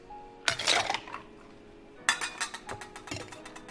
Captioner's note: slushing